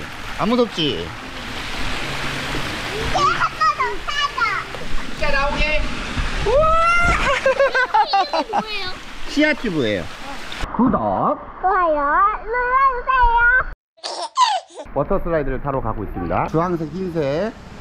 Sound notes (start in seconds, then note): 7.1 laughing